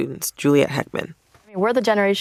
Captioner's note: soundbite of archived recording